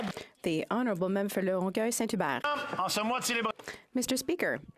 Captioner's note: some Applause